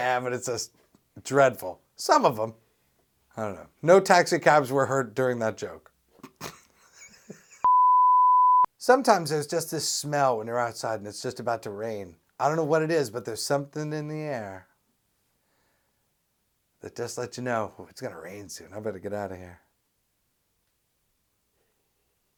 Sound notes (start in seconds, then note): 6.2 laughs; 7.6 SFX: beep